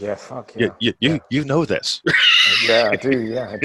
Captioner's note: laughing